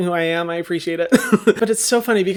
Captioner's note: laughs